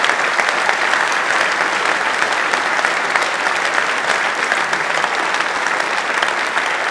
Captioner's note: applause